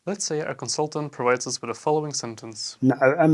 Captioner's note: iraqw speech